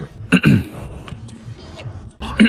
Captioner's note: cough, cough